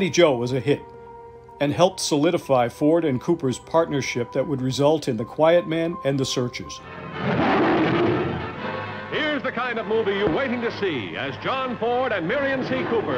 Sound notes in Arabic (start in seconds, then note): 7.1 زئير